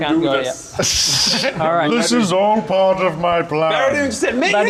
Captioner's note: mocking laughter